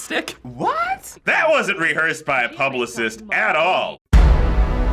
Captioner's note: sarcastic; dramatic chord